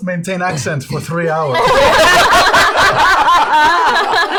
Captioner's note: laughter